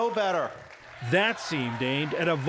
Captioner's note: cheering and applause